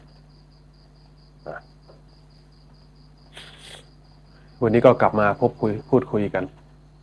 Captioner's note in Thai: เสียงสูดหายใจ